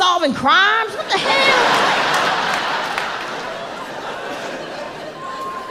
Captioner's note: audience laughing